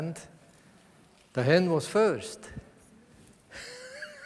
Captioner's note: laughs